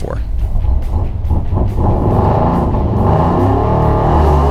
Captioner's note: engine revving